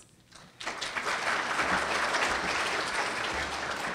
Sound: audience applauds

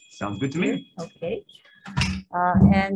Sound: phone ringing

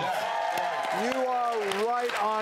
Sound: audience cheers

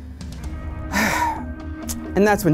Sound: sighs

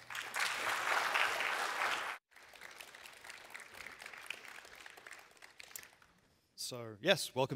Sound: applause

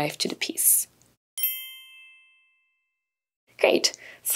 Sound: bell chiming

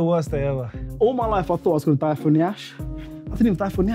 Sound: none

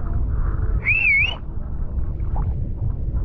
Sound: whistling

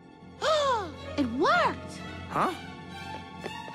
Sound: gasps

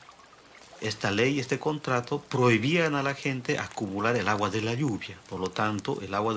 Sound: speaking in foreign language

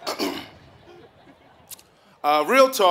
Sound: laughing

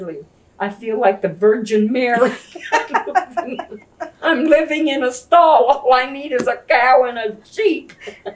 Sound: laughter

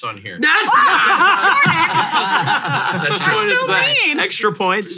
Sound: all laughing

